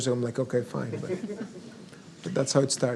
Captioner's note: audience laughs